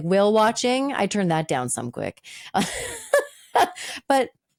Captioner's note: laughing